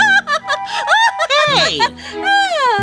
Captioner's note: laughs